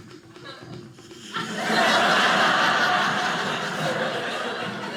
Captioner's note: audience laughing